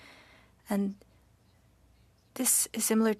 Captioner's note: speaking French